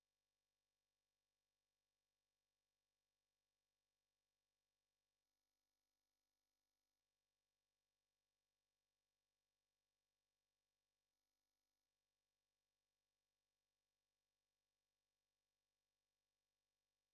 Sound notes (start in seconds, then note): none